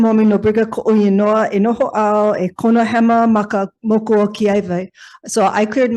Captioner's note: speaks in foreign language